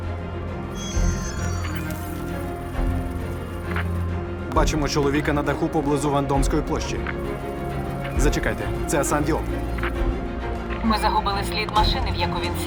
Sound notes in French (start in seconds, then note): 0.6 friture radio